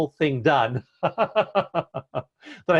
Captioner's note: chuckle